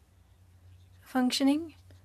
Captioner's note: speaking French